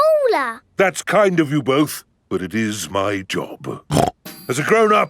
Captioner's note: snorts